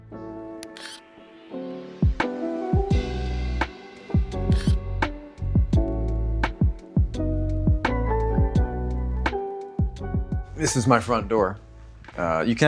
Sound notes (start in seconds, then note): 0.1 funky music; 0.6 graphics buzzing; 4.5 graphics buzzing; 7.1 funky music